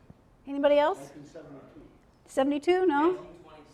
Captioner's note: voiceover